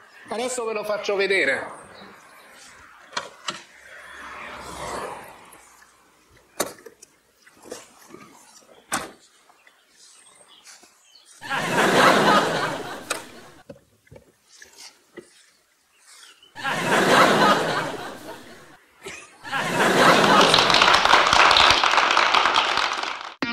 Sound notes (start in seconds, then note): 11.4 laughter; 16.5 laughter; 19.3 laughter and applause